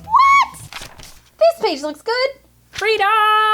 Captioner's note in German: Seitengeblätter